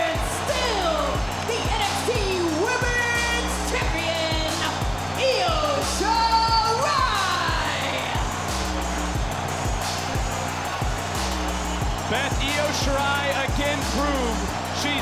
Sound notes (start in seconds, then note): 8.2 crowd cheering; 8.2 dramatic triumphant music